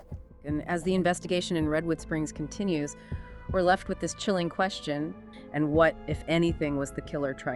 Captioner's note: true crime podcast playing